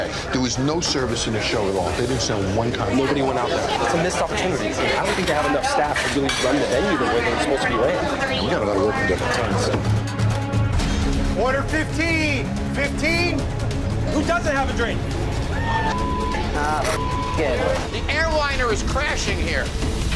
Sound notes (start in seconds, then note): 15.4 customers cheer; 17.5 beep; 19.9 percussive music